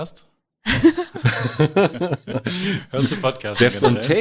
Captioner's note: both laughing